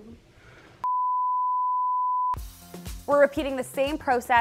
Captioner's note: upbeat music; tone beeps